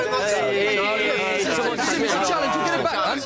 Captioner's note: all chattering